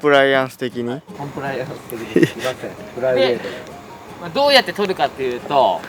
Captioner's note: laughs